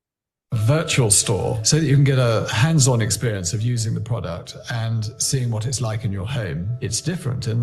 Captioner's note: video audio plays